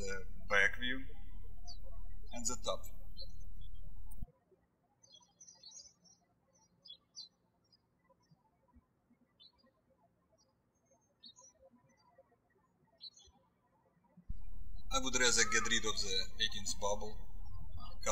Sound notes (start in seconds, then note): 4.5 birds chirping